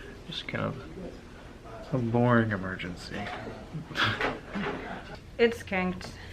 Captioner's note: laughs